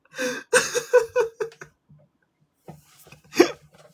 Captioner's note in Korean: 웃음